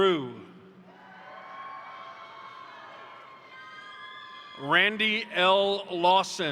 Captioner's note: crowd cheering; crowd applauding